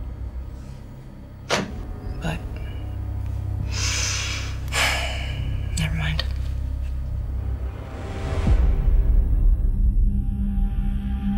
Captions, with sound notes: - But, [sighs] never mind. [ominous music]